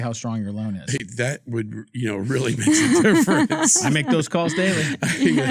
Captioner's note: laughing